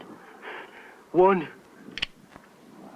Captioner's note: safety clicks off